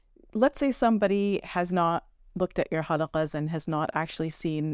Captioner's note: speaking Arabic